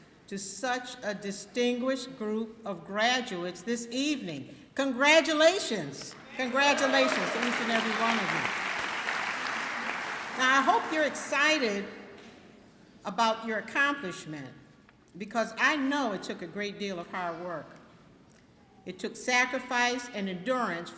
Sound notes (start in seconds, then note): 8.3 clapping